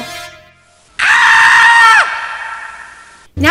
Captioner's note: scream